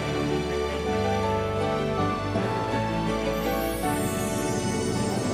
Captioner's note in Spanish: none